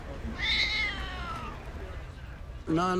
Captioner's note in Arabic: مواء القطة